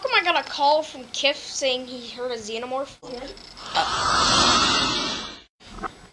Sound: hissing

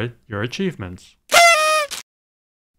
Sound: party horn

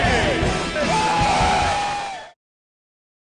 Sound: cheering

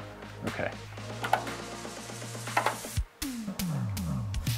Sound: controller clicking and whirring

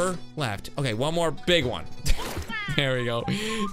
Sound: laughs

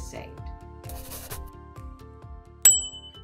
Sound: pen scratching; bell dings

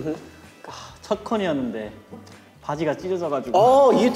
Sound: speaking in Korean

